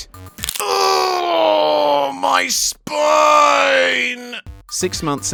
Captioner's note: sound of bones shattering